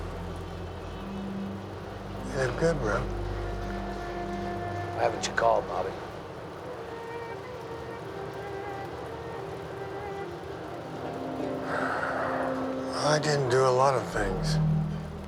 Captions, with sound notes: Hello. Inspector Bridges, SFPD. Have you seen this guy? No, no here, no here. Yeah, he's here. He's here. I told you, nobody here like that! He's here, he's here. (both speaking Chinese)